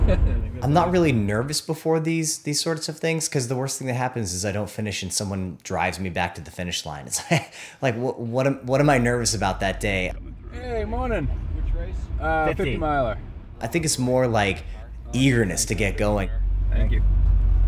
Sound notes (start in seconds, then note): 7.1 laughs